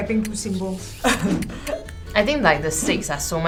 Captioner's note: laughs